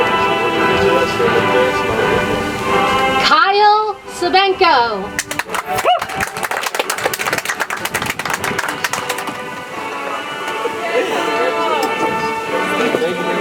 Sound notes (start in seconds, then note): 5.1 audience applauds; 9.1 soft music